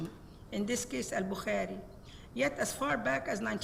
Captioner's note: speaks Arabic